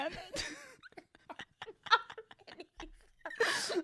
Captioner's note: laughs